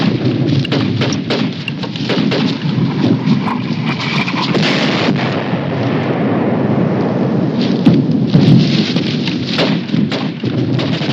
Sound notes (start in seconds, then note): 3.9 gunfire